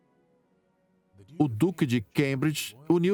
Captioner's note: voiceover